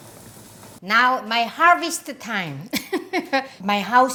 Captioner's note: laughs